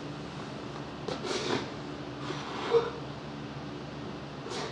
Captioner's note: sniffling